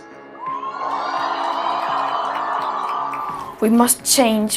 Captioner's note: crowd cheers